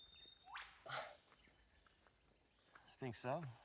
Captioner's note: birds chirping